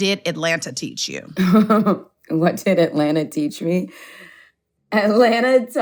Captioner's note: laughs